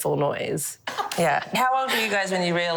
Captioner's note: laughs